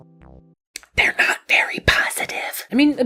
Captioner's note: whispers